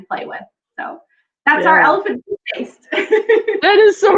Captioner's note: laughs